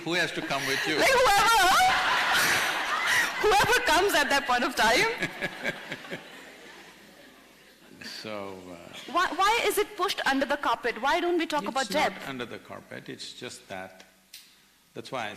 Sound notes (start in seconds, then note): 2.9 laughter; 6.6 Sadhguru Laughs